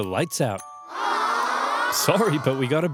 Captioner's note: Carthaginian soldiers whine